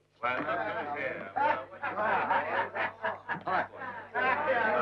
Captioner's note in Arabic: ثرثرة رعاة البقر